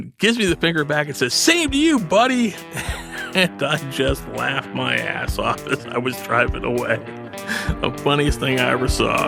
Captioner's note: laughing